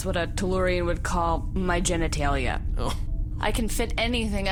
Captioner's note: chuckle